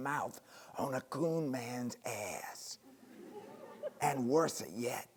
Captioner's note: audience laughing